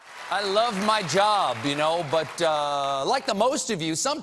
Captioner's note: cheers and applause